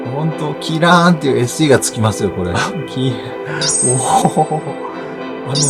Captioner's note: laughs